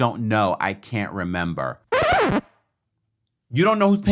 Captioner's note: record needle effect